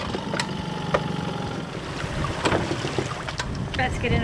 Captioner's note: engine whirring quietly